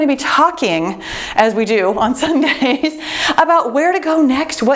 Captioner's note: laughs